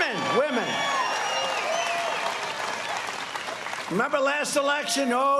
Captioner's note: cheers and applause